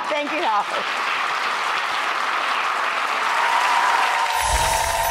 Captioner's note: audience applauding